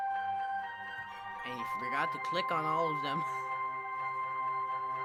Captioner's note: laughs?